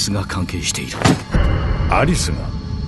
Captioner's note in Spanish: Jack golpea la mesa